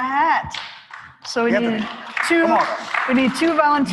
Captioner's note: applause